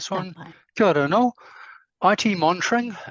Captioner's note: speaks te Reo Māori